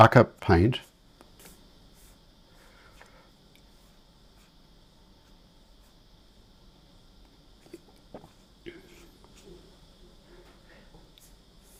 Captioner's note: silence